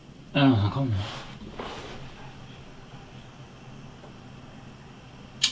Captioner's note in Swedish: Viskningar som hörs från andra rummet